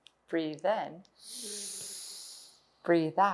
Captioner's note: inhales